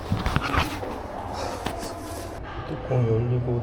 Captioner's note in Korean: 엉엉